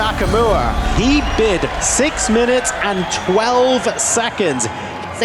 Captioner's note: music fades; crowd cheering, applauding